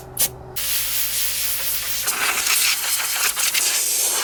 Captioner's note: air blowing